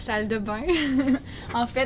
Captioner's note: laughs